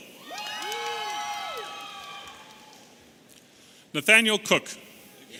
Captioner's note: audience cheering